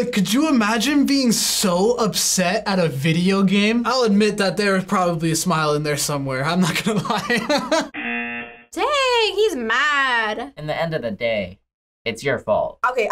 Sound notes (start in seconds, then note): 6.6 laughs; 7.9 buzzer rings